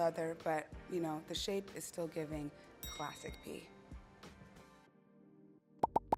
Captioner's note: ding